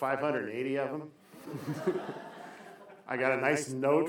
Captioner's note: laughter